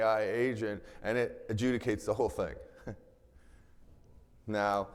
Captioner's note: chuckles